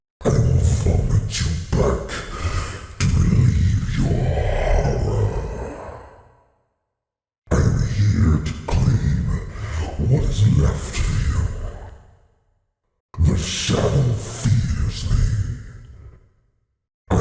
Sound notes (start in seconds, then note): 1.0 extremely Deep Voice; 8.1 extremely Deep Voice; 13.7 extremely Deep Voice